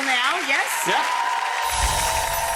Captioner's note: audience cheering; shimmery music